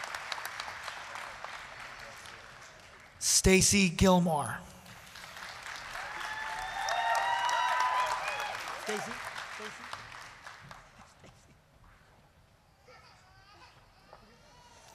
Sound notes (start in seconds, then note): 0.0 applause; 4.9 applause, cheering